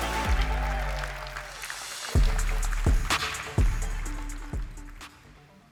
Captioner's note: applause